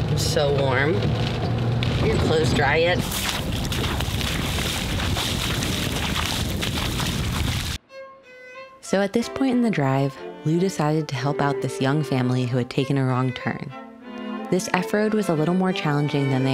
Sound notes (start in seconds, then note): 4.3 splashing swooshing sounds